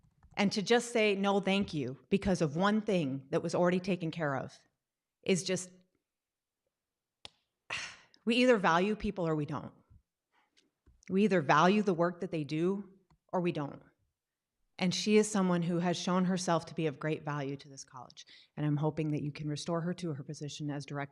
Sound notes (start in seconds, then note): 5.8 sighs